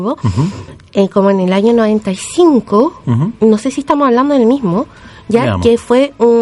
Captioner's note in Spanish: resoplido